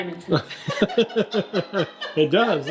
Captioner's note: laugh